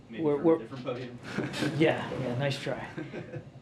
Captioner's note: laughs